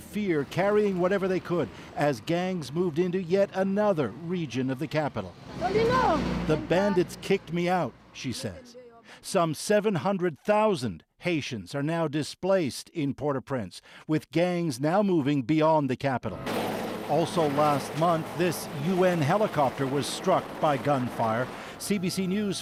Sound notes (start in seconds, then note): 6.8 speaking alternate language